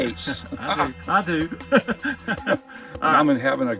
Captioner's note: laughs